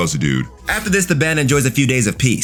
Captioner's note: air whooshing